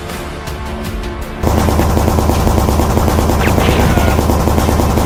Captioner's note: gunshots firing